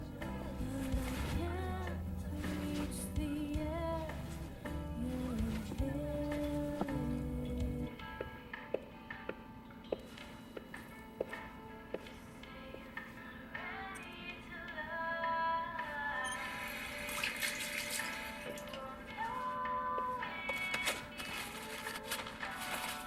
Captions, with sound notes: BUT I CAN'T REACH THE EARTH YOU'RE IN HEAVEN YOU SAY YOU'RE NOT READY TO LOVE ( water running ) YOU WON'T KNOW IF YOU DON'T...